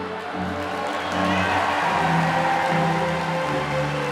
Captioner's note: applause